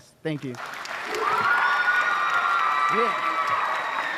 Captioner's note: applause